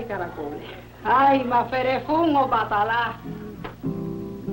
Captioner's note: speaking in a foreign language